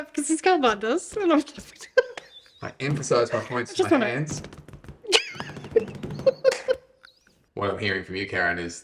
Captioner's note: laughing